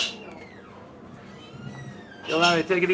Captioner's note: none